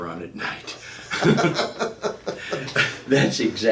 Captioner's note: laughing